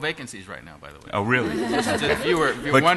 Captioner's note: laughter